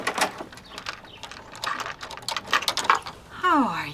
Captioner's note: chain rattling